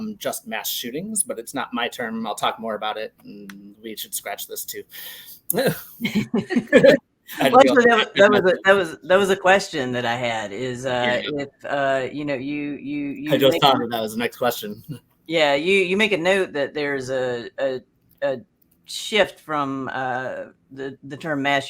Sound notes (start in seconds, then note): 5.6 laugher